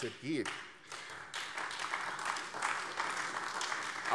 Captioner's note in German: Beifall AfD